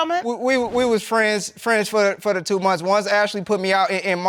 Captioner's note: stammers